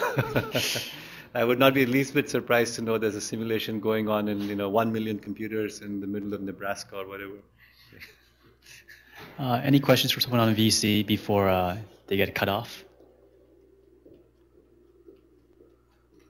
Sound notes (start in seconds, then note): 0.0 laughter; 0.0 laughs; 7.8 laughs; 16.0 pause